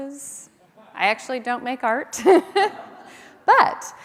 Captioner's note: chuckles